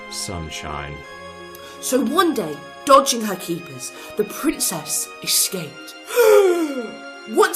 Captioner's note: gasp